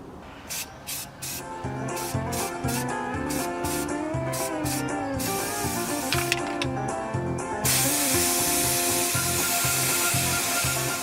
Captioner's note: spray noises and music